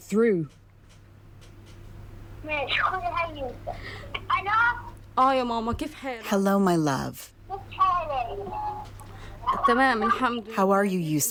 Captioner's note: through translator